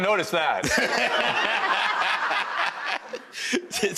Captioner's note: audience laughs